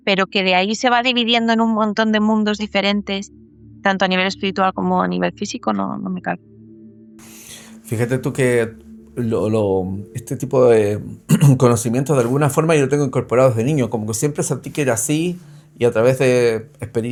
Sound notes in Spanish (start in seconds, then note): 11.2 carraspeo